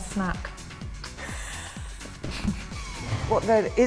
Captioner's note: laughs